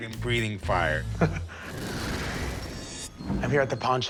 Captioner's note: chuckles